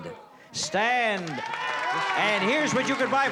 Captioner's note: cheering